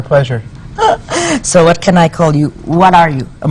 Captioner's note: chuckles